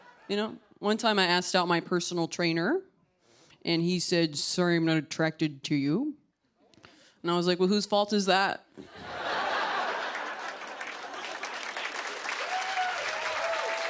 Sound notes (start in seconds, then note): 8.8 laughter; 11.4 applause